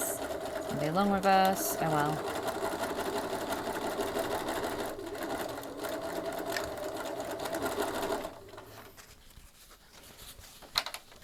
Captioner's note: sewing; sewing continues